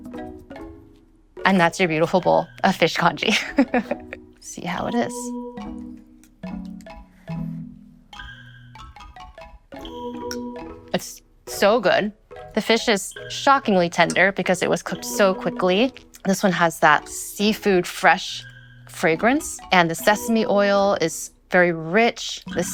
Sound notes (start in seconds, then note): 3.3 laughs